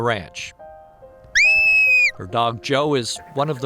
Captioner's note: whistle